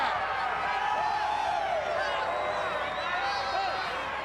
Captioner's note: crowd cheering